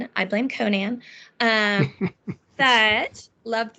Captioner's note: laughing